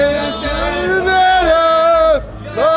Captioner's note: humming